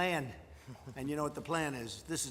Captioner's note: laughter